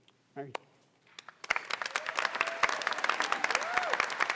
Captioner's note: applause